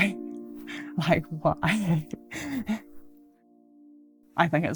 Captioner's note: laughs